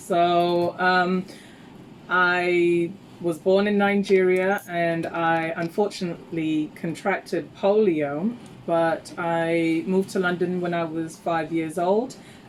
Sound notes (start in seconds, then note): none